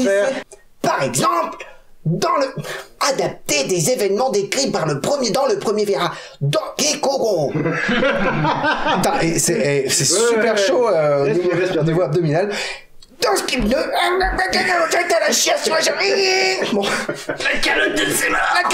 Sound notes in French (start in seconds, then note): 7.5 Rires; 12.4 voix étrange; 16.3 rires; 17.5 Imitation voix épique